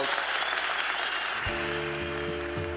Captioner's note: applause